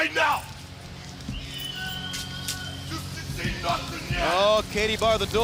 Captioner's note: crowd chatter